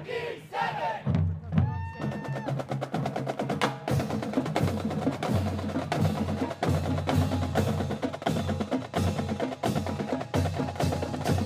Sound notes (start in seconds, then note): 1.6 student cheering; 3.6 upbeat marching band music